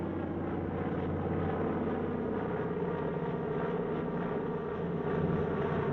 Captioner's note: airplane Passing Overhead